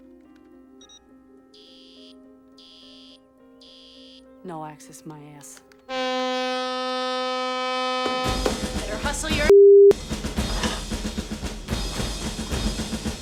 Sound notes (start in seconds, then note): 0.3 beeping; 5.9 blaring